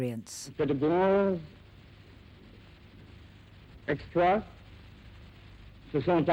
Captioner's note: George VI speaking in foreign language